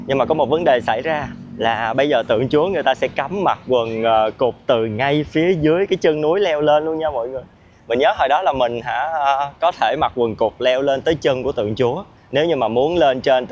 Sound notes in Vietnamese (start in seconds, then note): none